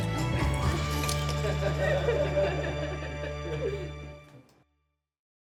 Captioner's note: gentle music; diners laughing